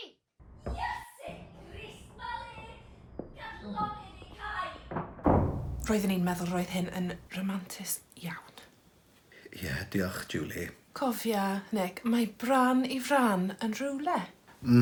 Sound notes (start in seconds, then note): 4.8 door slamming